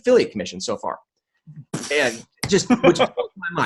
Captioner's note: exhales loudly; laughing